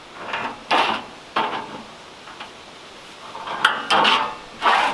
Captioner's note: metal clanging hollowly